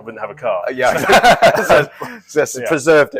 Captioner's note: laughing